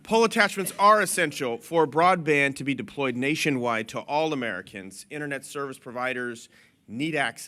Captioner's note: laughter